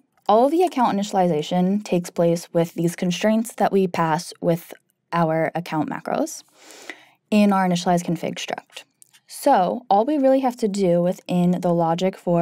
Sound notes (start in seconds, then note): none